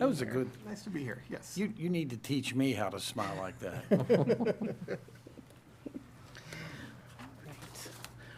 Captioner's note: laughter